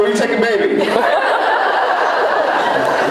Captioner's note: laughs